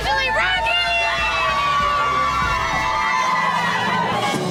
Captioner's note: upbeat music; women cheering